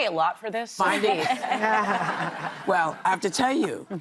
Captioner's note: laughter